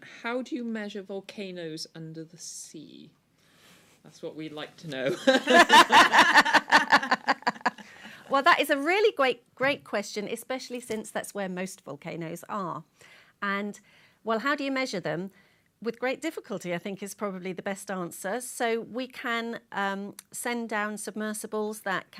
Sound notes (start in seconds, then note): 5.0 laughter